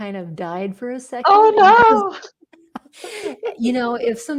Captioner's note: laughs; laughing